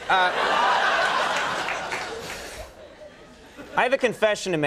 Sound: laughter

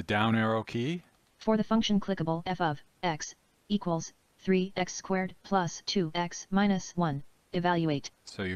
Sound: synthesized speech

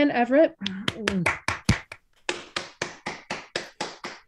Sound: applause

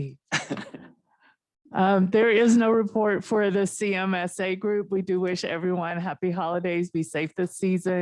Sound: chuckle

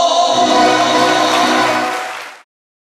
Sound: audience applause

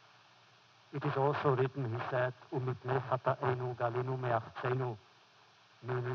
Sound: foreign language

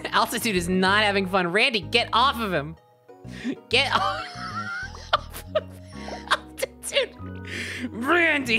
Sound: laughing

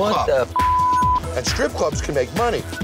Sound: beep

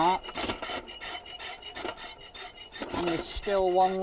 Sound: scale creaks

